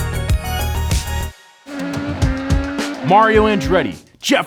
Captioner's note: upbeat music; car revs